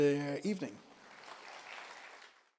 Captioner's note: applause